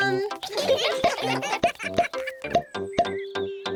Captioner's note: all giggling